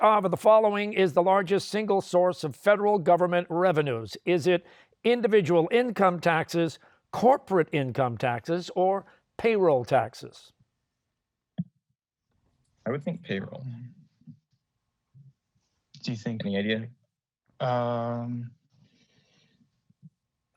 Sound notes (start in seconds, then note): none